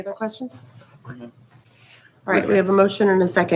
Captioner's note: hushed speaking